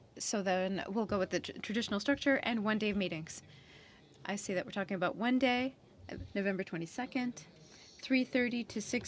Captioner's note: speaking french